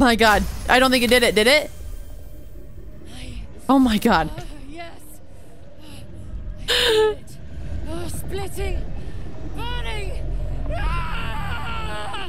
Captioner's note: Lae’zel screams